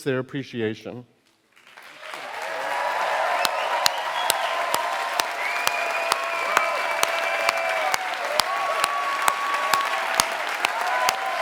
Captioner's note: applause